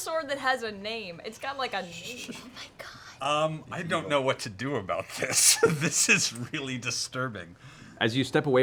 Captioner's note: laughs